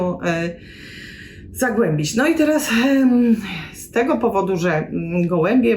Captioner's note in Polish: wciągnięcie powietrza